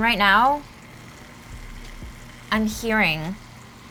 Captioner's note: bubbling